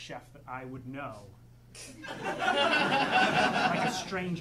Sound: audience laughing

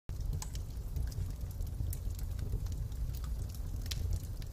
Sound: fire crackling

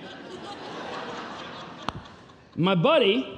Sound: congregation laughing

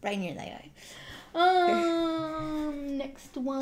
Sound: laugh

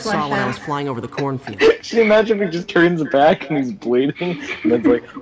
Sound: laughs

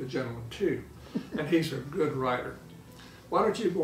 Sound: laughing

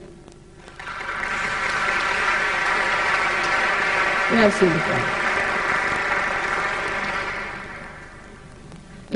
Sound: applause

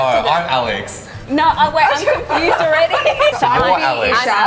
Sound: laughing

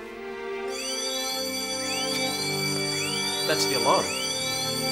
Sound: alarm ringing

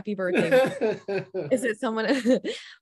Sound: giggles

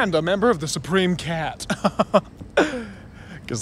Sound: chuckling

